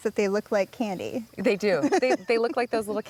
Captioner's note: giggling